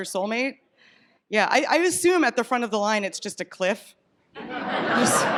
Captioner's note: laughter